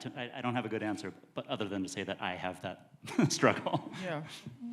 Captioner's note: chuckling